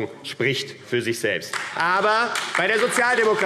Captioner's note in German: Beifall AfD - Zurufe